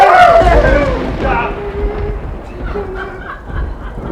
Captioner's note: thunder booms